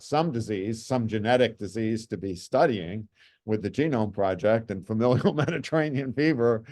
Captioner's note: chuckles